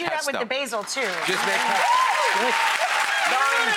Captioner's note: audience cheering